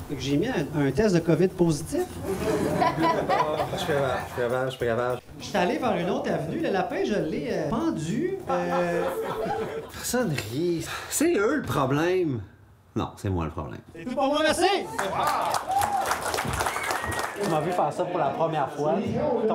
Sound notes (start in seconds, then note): 2.2 faint laughter; 14.8 faint applause